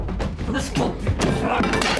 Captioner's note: scuffling; glass shatters